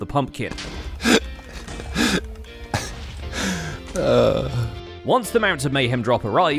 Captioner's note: explosions; laughs